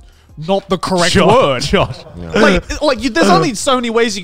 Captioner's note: giggling